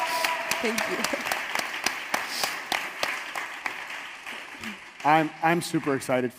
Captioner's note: audience applauds and cheers